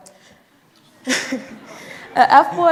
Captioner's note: audience laughing